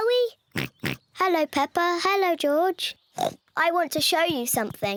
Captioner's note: oinks; oinks